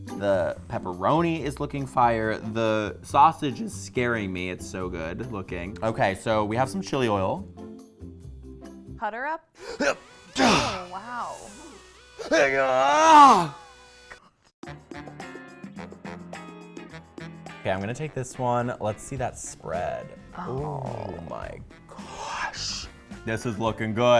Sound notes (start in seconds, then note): 9.6 groans; 12.2 groans; 15.3 soft music